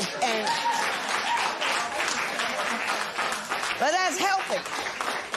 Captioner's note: applause